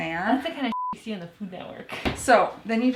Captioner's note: beep